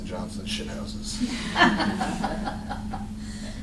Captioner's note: laughter